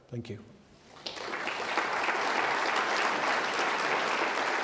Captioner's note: audience applauding